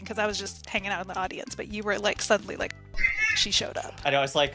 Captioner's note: meow